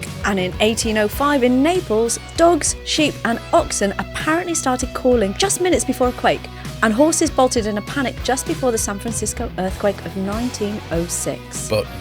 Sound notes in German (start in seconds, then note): none